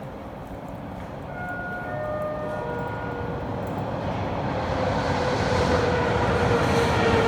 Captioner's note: arrival of train at the station